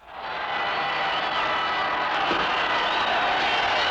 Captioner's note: crowd cheering